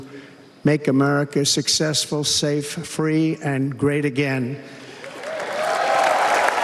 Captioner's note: applause